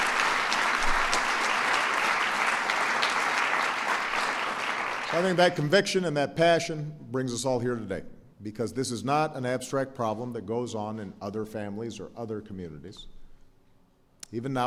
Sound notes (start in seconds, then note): 3.5 applause